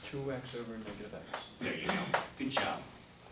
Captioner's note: voiceover